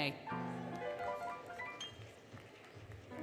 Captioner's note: applause, Cheering, Music